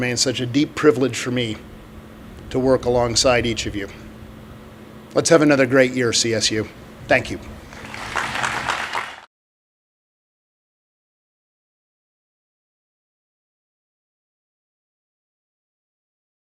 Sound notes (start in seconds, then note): 7.7 audience clapping